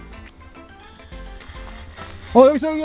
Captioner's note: motors noise